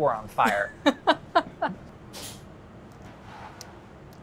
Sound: laughs

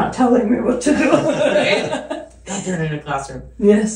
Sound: laughing

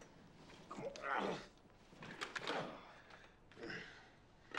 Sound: groaning

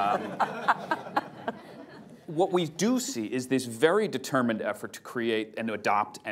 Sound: laughter

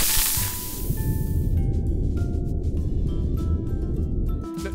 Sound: floating teat spore sounds

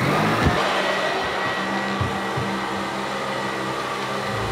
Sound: vacuuming

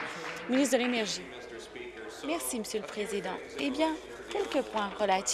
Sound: applause

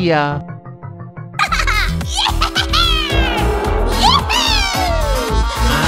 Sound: laughing; continues laughing

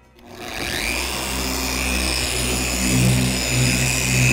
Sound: polisher whirs

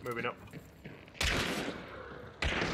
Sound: gunshot; rapid gunshots

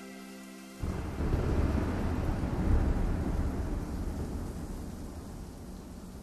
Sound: falling rain; thunder

